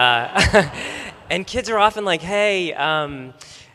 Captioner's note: laughter